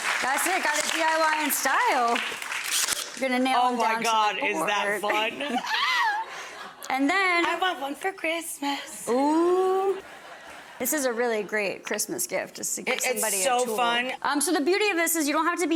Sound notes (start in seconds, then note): 0.0 audience applauding; 2.7 nailer buzzing